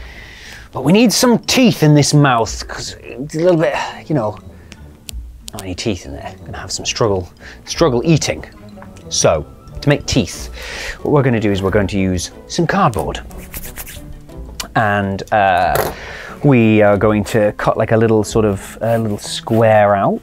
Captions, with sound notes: But we need some teeth in this mouth, because it's a little bit - you know - not any teeth in there. Going to have some struggle - struggle eating. So, to make teeth, what we're going to do is we're going to use some cardboard. [HANDS RUB] And we are going to cut like a little sort of a little square out.